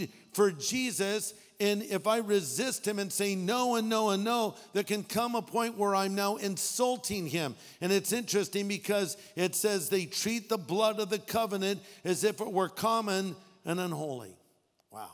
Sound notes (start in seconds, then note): none